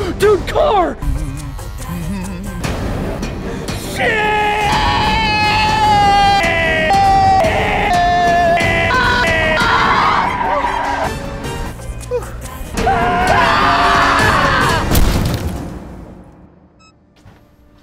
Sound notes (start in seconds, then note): 0.2 gasps; 1.1 humming, shaver buzzing; 8.6 tires screech; 12.8 both scream; 14.9 thud!